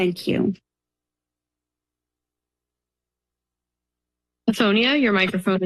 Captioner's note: silence